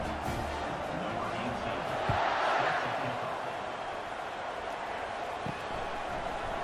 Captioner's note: crowd cheering